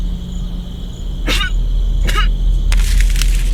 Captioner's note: coughing